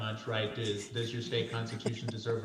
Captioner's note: panelist laughs